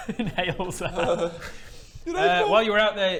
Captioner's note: Baradun quivers